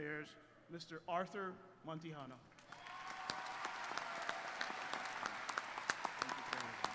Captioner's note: applause